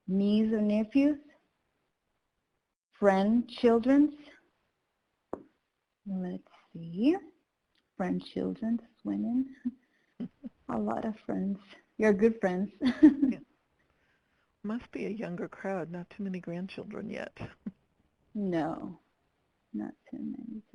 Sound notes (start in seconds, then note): 13.8 laughing